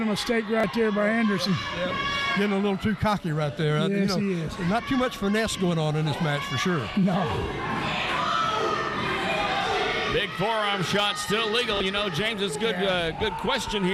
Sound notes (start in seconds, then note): 7.7 crowd yelling